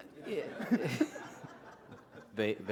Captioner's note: laughter